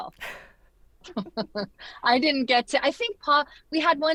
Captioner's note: chuckles